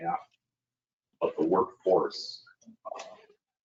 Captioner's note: speaking faintly